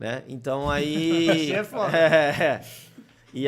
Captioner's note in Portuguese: risos